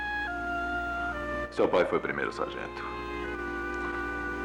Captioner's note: paper Crinkling